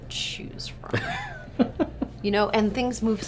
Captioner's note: laughing